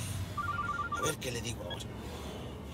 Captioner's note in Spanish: suena un celular